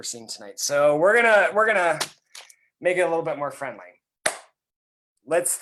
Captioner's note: claps